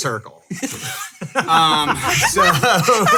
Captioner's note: laughing